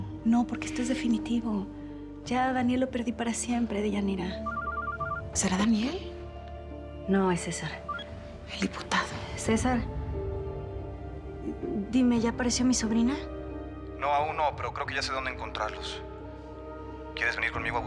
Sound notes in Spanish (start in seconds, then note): 4.4 suena el celular